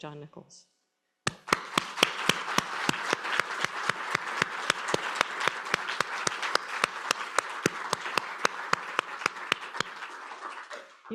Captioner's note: applause